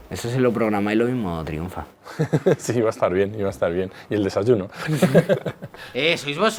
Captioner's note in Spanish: risas